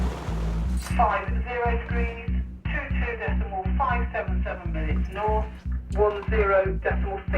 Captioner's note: voice On Radio